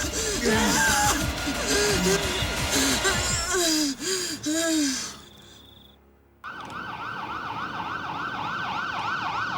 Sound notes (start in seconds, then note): 0.1 Graham grunting; 1.2 Jodie breathing heavily; 6.4 sirens wailing